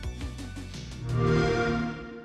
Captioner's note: xbox sound